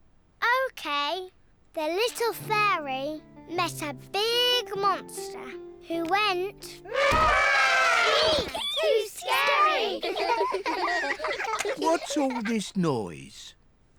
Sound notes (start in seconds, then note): 6.8 trumpets; 10.3 all laughing